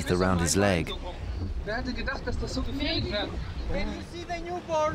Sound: speaking German

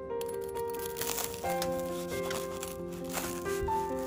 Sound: crunch

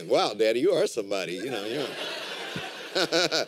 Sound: laughter

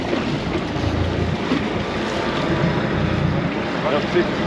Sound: reel cranking; fish splashing

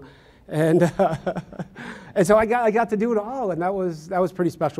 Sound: laughs

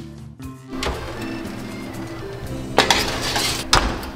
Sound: lighthearted music; oven door opens; metal clanking

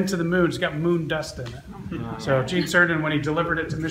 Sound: several laugh

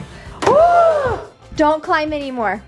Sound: gasping

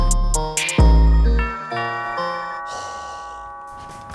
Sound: hiphop music; doorbell rings; sighs

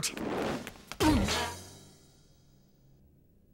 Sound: pink panther grunts

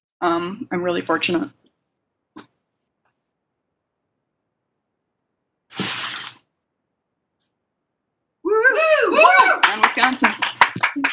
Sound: cheering

